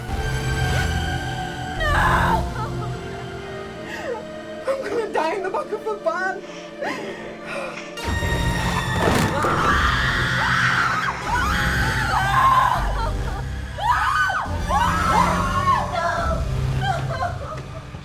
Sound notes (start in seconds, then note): 9.1 all screaming; 12.4 dramatic music